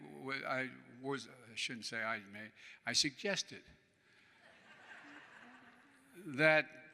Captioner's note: laughter